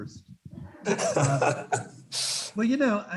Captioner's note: students laughing